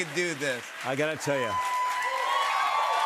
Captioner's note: cheers and applause continue